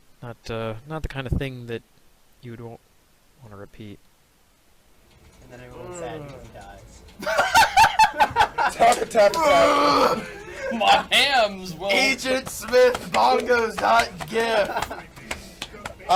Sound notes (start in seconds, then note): 7.2 laugh